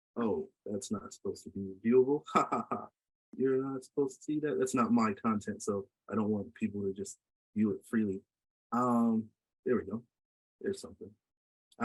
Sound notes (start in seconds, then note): 2.2 laughs